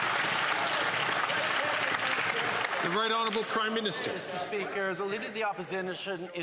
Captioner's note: some Applause